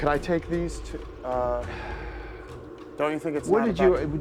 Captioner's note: sighs